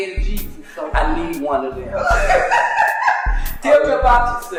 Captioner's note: laughing